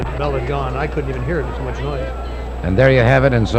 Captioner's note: people chattering distantly